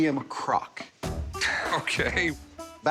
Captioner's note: laughs